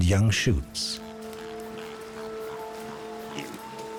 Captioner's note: pig snorting